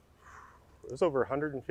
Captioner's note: exhaling powerfully